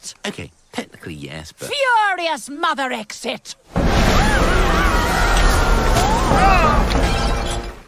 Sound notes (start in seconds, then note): 4.1 man groans